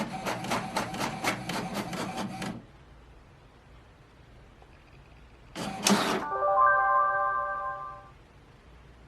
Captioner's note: printer sounds